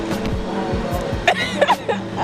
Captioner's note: laughter